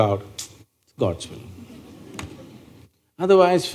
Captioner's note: few Laugh